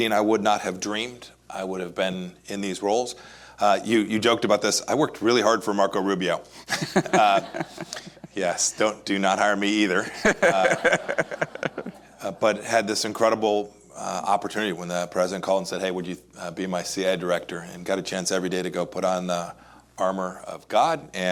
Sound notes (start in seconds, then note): 9.8 laughs